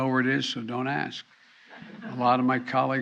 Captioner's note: laughter